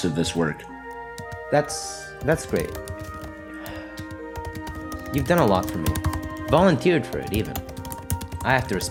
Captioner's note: sigh